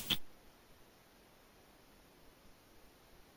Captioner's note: spraying